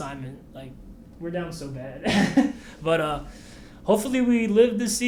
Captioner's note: laughs